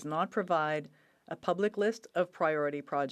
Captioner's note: speaking French